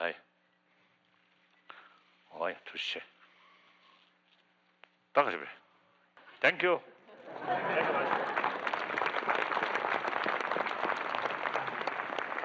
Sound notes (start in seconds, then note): 8.7 laughter; 10.2 clapping